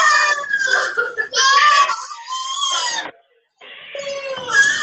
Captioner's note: child exclaiming